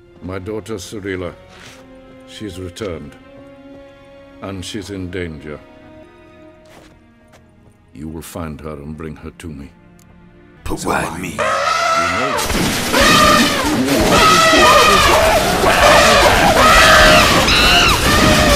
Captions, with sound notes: "My daughter Cirila... she's returned, and she's in danger". "You will find her and bring her to me". "But why me?" [elephant and gun noises] [monkey screeching]